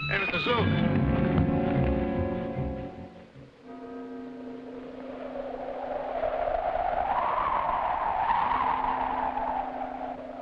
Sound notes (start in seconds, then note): 0.0 dramatic music; 3.7 bell tolling; 3.9 wind howling